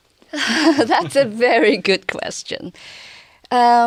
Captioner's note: laughs